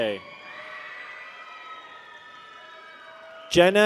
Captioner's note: people cheer